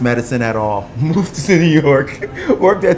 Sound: laughing

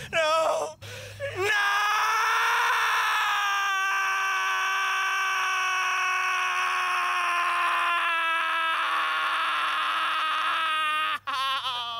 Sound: screams

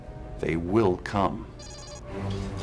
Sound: alarm

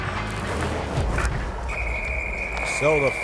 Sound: whistle

